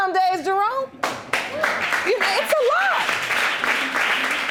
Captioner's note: audience applauding